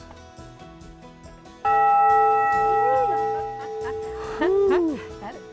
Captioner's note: bell reverberates